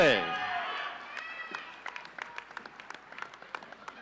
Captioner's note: audience cheering